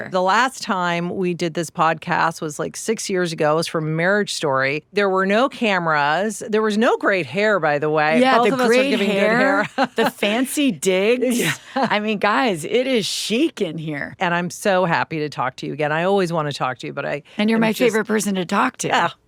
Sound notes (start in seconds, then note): 8.2 laughs; 11.4 chuckles